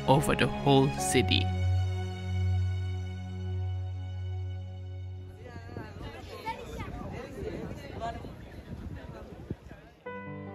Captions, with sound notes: over the whole city. (voices murmuring)